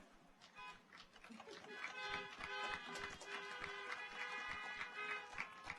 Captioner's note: audience applauds; car horns honking